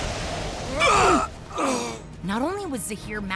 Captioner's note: grunting